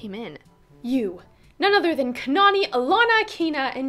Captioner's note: announcer voice